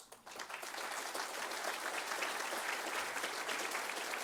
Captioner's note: audience applauds